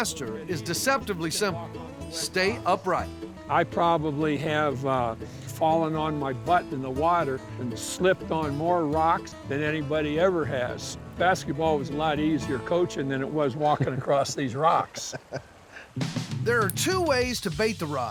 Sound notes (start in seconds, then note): 14.8 laughing